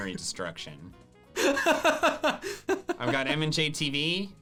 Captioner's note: laughing